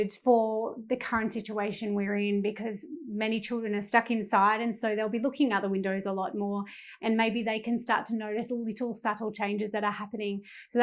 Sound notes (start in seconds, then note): none